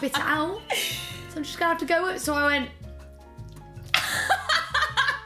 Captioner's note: laughing